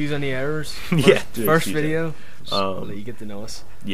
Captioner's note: laughs